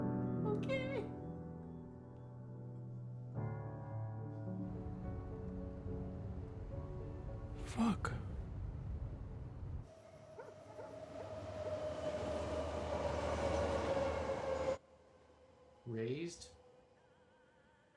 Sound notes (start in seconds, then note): 9.8 bart train passing; 10.3 dog barking